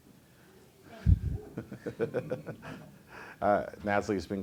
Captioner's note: laughs